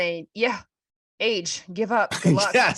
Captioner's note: laughter